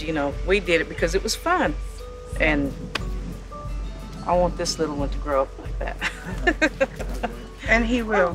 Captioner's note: laughs